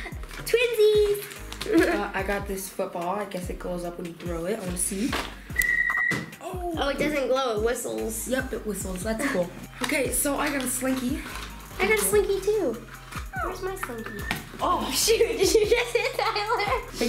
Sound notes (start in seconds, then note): 0.0 laughing; 5.6 ball whistling; 14.6 laughing